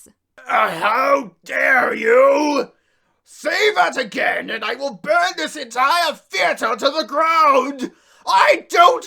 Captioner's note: burp